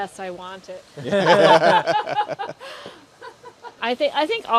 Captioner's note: laughter